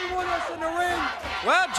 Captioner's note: crowd cheering